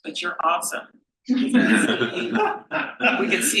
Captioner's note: panel laughs